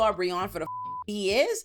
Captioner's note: beep